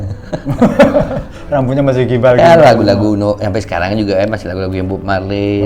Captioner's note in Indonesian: tertawa